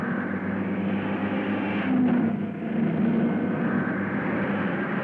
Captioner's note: cars revving